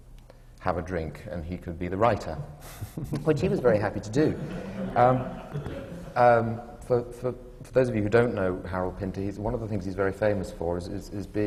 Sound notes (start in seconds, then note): 3.1 laughter from the panel; 3.9 laughter